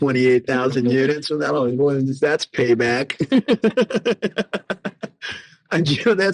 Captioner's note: laughing